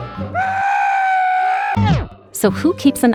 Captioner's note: man screams